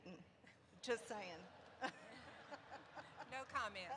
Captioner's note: laughter erupts